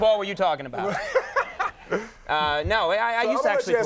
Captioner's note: Will laughing